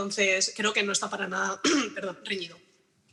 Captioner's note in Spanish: carraspea